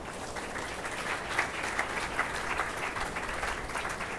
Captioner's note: attendees applauding